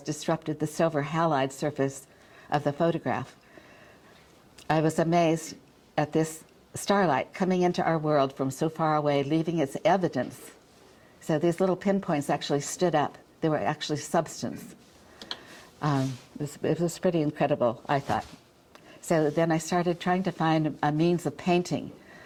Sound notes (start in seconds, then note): none